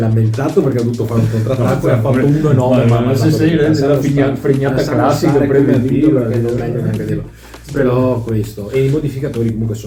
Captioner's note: laughs